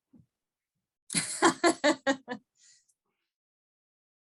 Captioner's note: laughing